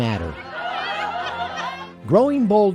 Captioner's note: women laughing